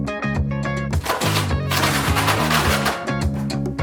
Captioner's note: cardboard ripping loudly